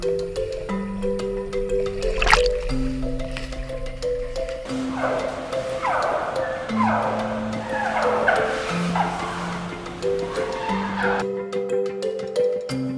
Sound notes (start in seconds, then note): 4.6 chirping noises